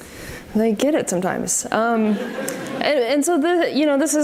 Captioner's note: audience laughs